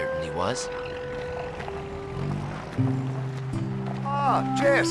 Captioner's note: car engines rumbling